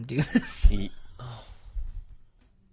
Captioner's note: sighing